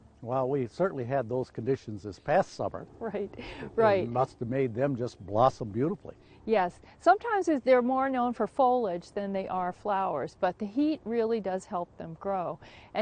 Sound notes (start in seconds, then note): 3.4 laughs